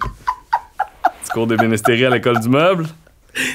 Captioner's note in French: éclat de rire